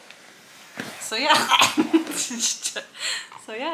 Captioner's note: choking